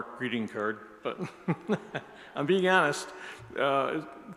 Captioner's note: laughs